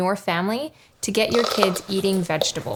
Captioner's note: kid crunching loudly